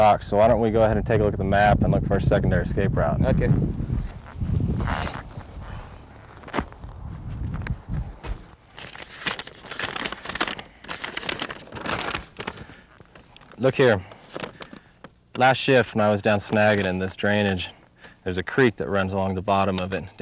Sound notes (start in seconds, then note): 4.7 velcro snapping; 8.2 paper crumbling